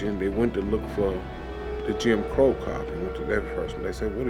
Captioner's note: train engine rumbling